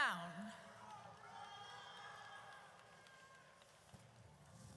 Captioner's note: audience cheers